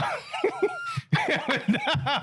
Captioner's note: laughing